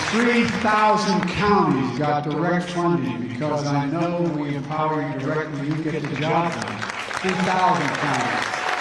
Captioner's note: applause